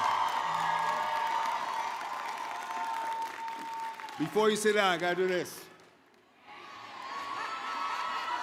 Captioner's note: cheering